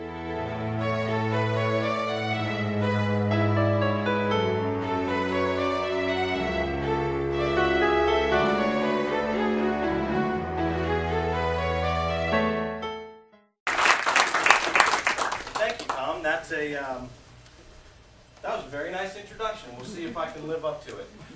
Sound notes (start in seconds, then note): 13.6 applause